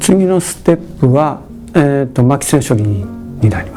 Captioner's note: speaking japanese